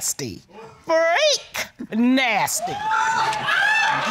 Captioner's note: audience laughing; chuckles